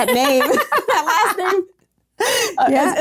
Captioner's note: laughing